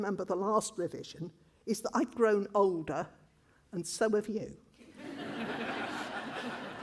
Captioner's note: laughter